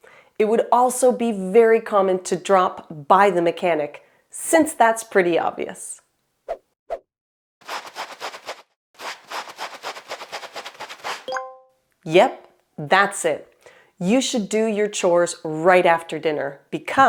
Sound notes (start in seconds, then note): 9.0 scrubbing